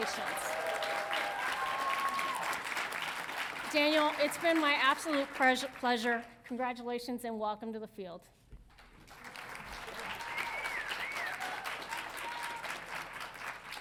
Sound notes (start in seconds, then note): 0.0 audience cheering; 8.8 audience applauding